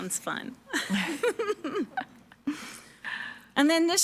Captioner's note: participants laughing